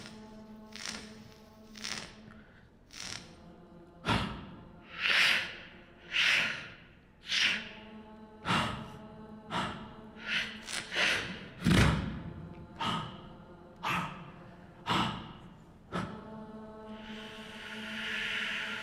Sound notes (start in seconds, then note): 2.9 beatboxing